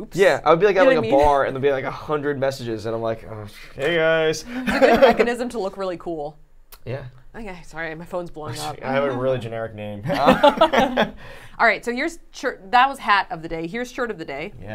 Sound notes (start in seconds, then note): 10.0 laughing